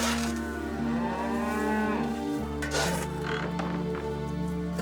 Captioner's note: cows lowing